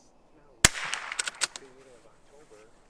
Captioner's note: rifle fires; rifle bolt chambers; people talking